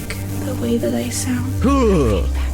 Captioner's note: shivers